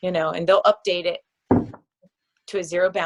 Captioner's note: loud thud